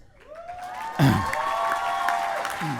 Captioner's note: applause